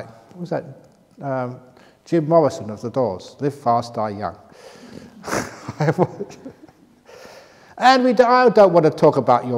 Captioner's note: laughs